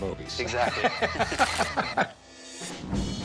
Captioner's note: laughs